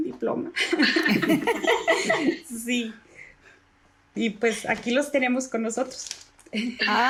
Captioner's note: laugh